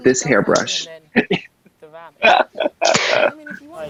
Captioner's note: laughs